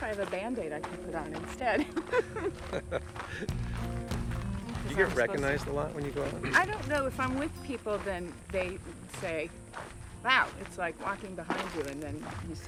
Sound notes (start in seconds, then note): 1.7 laughing; 2.0 casual music